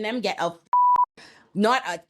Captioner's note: beep